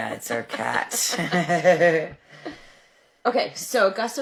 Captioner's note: laughing